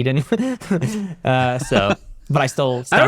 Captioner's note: laughter